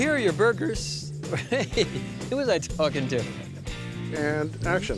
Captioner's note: laughing